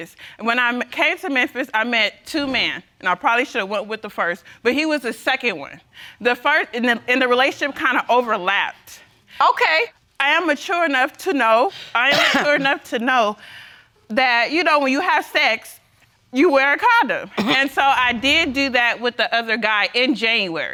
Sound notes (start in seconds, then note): 12.0 coughs; 17.3 coughs